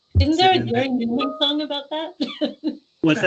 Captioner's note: laughing